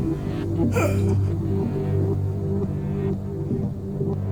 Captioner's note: Kenneth gasping